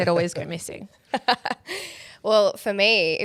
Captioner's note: laughs